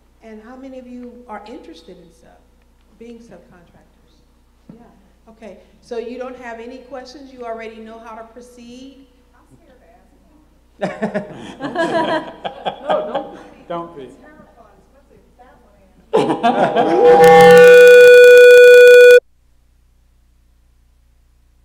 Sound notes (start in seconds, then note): 10.8 laughter; 16.1 laughter